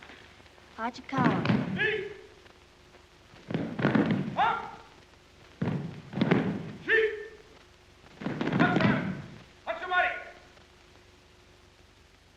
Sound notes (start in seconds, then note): 0.7 speaks in Japanese; 1.7 shouts commands; 4.3 shouts commands; 6.7 shouts commands